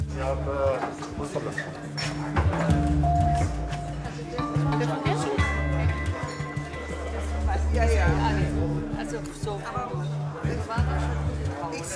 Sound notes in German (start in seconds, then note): 2.9 Spannungsgeladene Musik; 7.3 Gespräche im Hintergrund